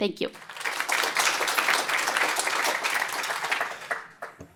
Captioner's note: applause